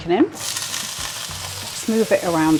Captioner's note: sizzle